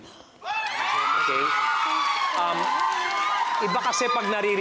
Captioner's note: audience cheering